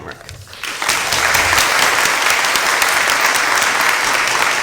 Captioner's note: applause